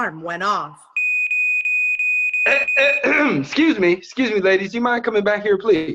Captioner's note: alarm sounds